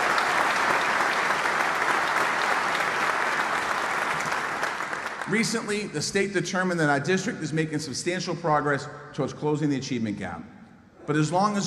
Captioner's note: applause